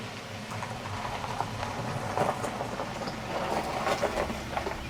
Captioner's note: gravel crunching